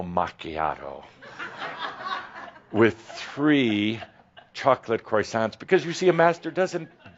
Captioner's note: laughter